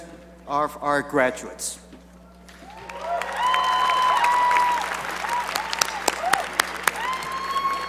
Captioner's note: cheering and applause